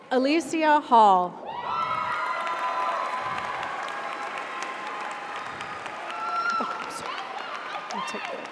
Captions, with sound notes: - Alycia Hall. (audience applauds) (audience cheers)